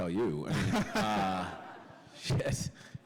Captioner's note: laughter